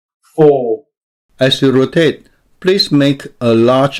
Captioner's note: voiceover